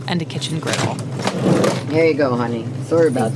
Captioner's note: store ambience